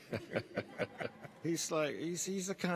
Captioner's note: laughing